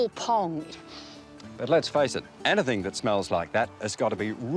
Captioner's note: sniffs